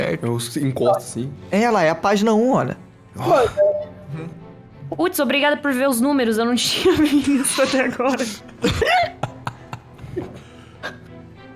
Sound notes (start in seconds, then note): 8.6 laughing